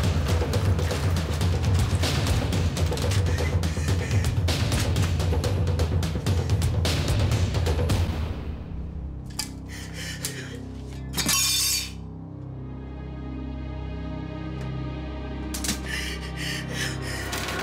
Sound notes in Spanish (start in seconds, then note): 13.0 Estrépito de vidrios rotos